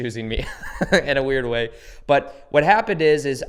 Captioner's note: laughs